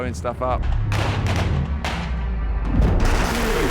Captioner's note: explosion